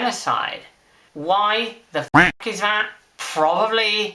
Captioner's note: quack